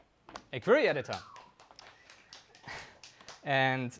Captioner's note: attendee whistling